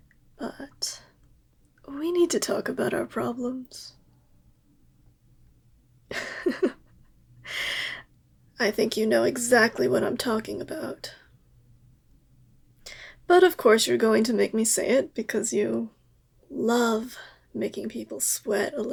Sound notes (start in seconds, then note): 6.1 laugh